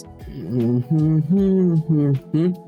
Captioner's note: humming